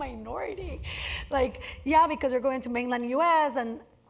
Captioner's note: laugh